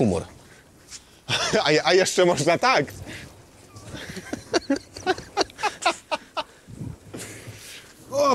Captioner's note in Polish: śmiech